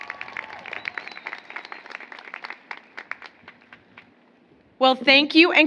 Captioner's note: applause